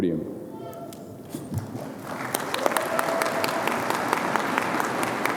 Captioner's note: audience applauding